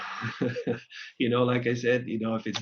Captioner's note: laughs